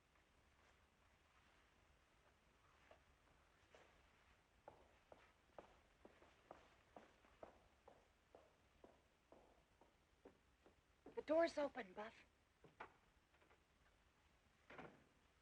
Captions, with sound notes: [ Footsteps ] The door's open, Buff. [ Door Opens and Closes ]